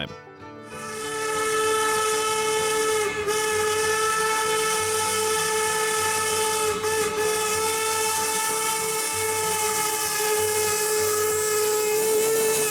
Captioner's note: whistle